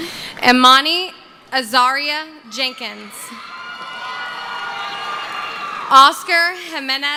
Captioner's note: cheering